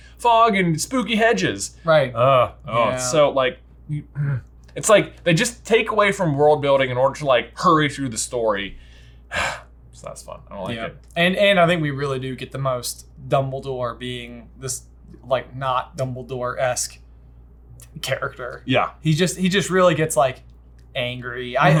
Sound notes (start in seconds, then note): 8.8 exhales